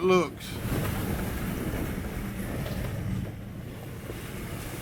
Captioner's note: water splashing